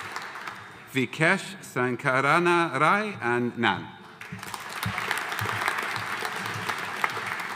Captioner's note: audience applauding